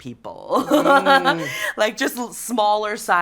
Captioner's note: laughs